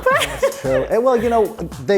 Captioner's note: laughing